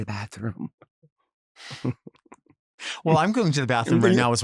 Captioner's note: chuckles